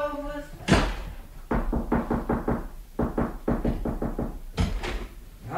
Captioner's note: knocking at the door